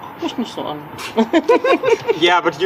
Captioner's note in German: kichern